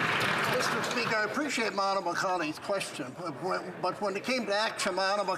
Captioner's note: some Applause